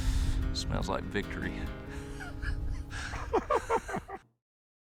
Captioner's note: laughter